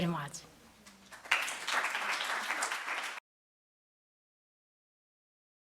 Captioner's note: audience applauding